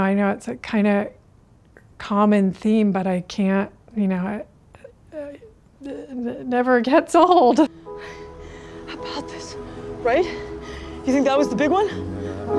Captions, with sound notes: and I know it's a kind of common theme, but I can't-- you know, it... [chuckling] never gets old! [panting] How about this, right? You think that was the big one?